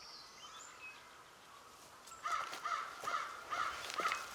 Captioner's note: crow cawing